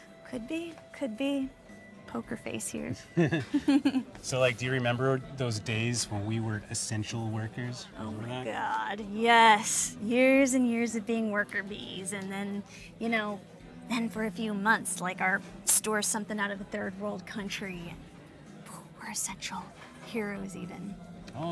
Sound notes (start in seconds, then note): 3.1 both chuckle